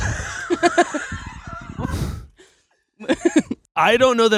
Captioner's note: laughing